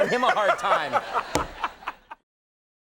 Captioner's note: Will laughing